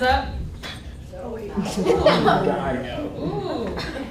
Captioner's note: students laughing